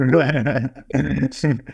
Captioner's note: laughs